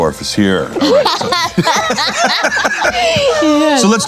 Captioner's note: laughing